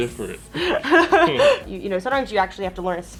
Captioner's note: Elle laughs